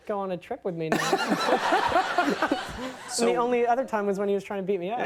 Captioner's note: Conan and audience laugh